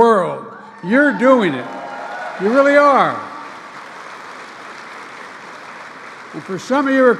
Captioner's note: applause